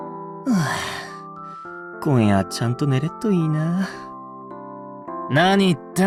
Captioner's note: sigh